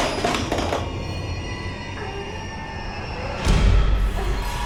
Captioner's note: screams